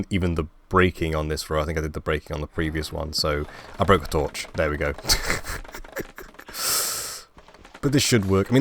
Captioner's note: laugh